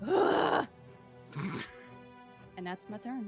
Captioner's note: Widdle grunts